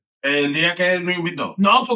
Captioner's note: speaking In Foreign Language